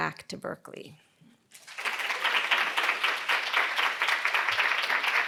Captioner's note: students clapping